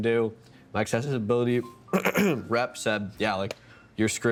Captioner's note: clearing throat